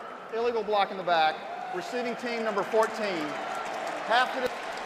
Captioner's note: pa announcement